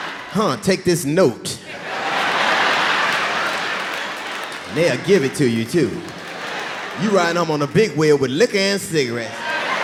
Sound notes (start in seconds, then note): 1.6 audience laughing